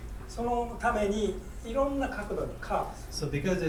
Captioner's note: speaking in foreign language